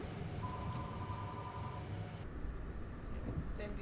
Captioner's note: phone rings